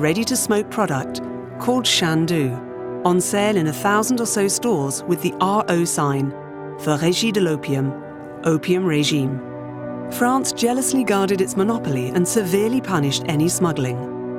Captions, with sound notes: ready to smoke product called Chandu on sale in 1000 or so stores with the RO sign, (speaking in French) opium, opium regime. France jealously guarded its monopoly and severely punished any smuggling.